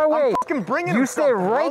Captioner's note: beep